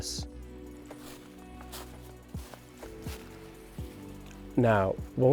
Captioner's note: foliage crunch